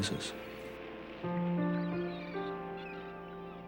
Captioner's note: seagulls Cawing